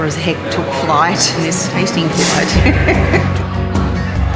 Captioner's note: laughter